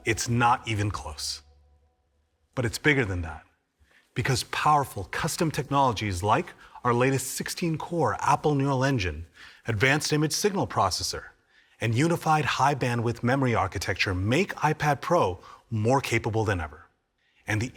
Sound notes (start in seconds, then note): none